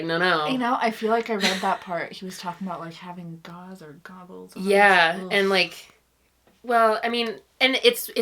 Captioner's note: laughs